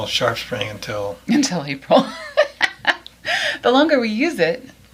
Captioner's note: laughs